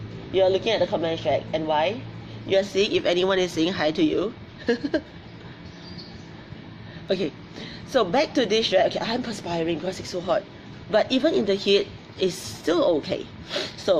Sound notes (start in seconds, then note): 4.6 laughs